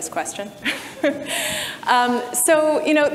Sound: chuckles

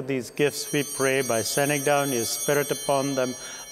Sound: bell ringing

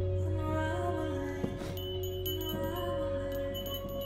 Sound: bell tinkling

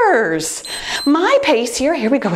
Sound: timer beeps

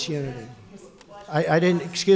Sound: off-mic

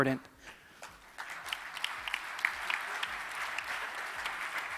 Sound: audience clapping

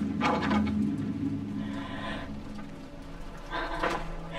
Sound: breathing Erratically

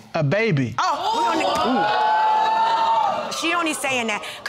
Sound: audience exclaiming

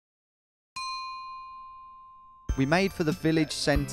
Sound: bell dinging

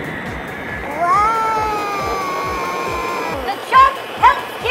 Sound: loud mystery smoothie blending

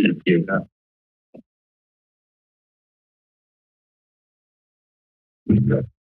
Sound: silence

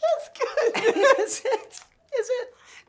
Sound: laughter

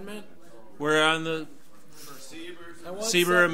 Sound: overlapping chattering

